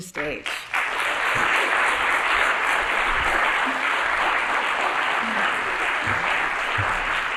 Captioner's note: applause